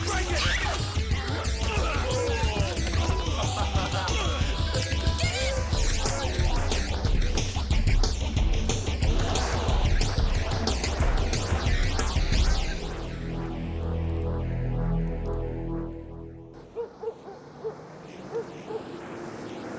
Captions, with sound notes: - Let go or I'll break it! (screaming) - Get in! (energetic rock music) (suspenseful music) (dog barking)